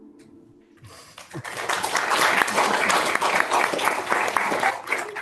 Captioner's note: audience claps